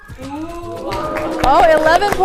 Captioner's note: crowd gasping